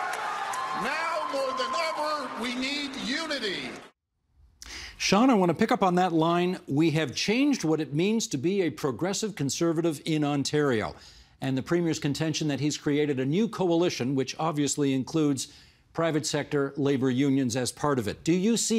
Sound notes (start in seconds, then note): 0.0 cheers and Applause